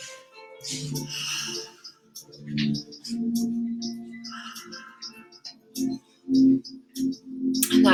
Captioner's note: moving and breathing